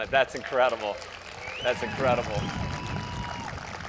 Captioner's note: crowd cheers